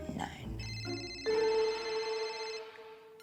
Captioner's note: phone ringing